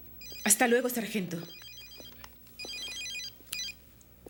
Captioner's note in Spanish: Mulher tagarelando; Telefone tocando